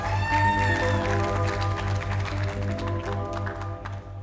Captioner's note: cheering